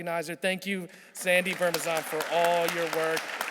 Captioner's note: audience clapping